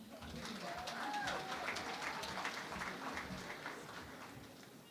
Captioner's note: cheering and Applause